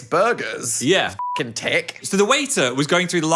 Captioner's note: beep